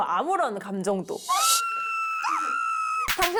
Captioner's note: Queen Gabee’s scream sound